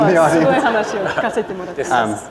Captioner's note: laughter